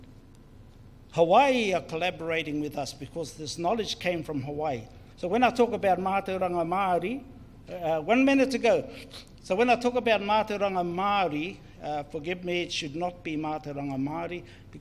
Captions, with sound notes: Hawaii are collaborating with us because this knowledge came from Hawaii, so when I talk about (speaks in foreign language) One minute to go, so when I talk about (speaks in foreign language) Forgive me it should not be (speaks in foreign language)